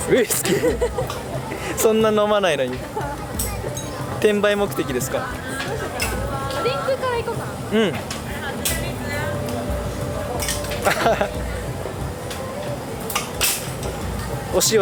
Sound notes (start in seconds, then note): 3.6 laughs